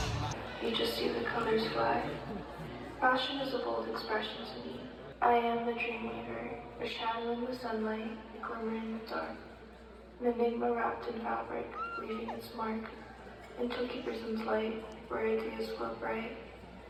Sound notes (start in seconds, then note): 11.7 squeals